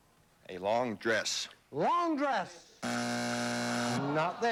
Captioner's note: buzzer